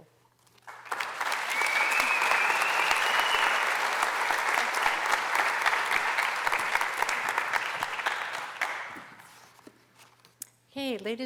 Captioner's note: applause